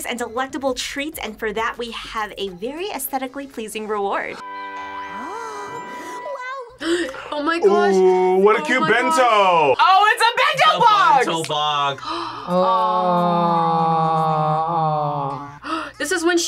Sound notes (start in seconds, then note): 6.8 gasps; 12.0 gasps; 12.2 both groan